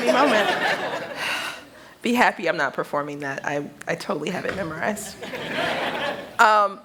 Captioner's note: laughter; laughter